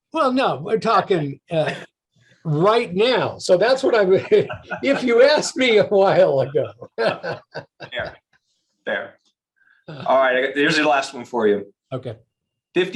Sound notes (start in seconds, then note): 6.8 both laughing